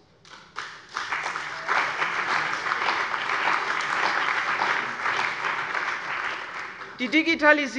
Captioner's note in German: Beifall bei der CDU und dem BÜNDNIS 90/DIE GRÜNEN